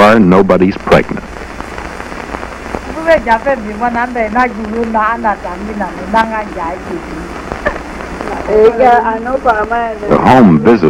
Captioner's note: voices speaking an African language